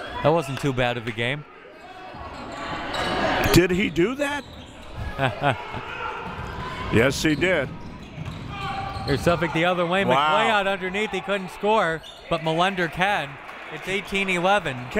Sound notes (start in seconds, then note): 5.0 laughing